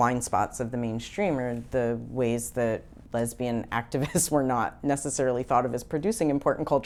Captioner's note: chuckles